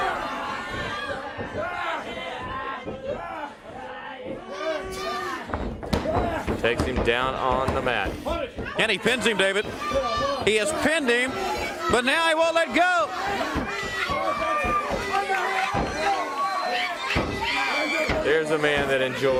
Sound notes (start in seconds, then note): 0.1 crowd chatter; 9.2 crowd chatter; 14.3 crowd cheering